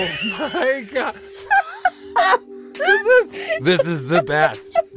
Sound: both laughing

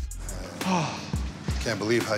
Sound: sighs

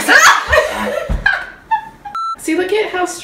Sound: laughs

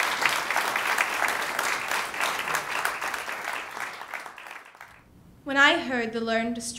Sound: ^applause^

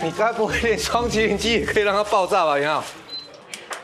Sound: beep

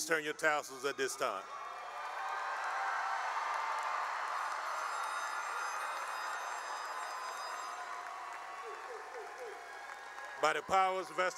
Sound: cheering and applause

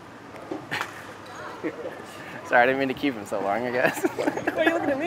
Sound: laughs

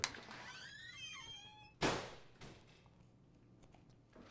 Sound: door slams shut

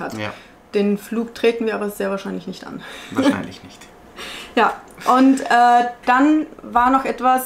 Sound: laughing

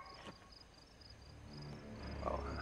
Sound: dog yelps

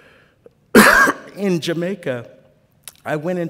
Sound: cough

